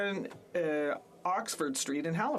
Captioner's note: speaking French